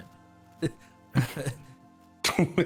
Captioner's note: small laugh; hearty laugh